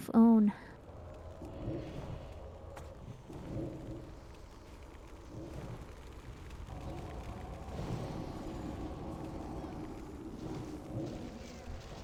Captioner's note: wind blowing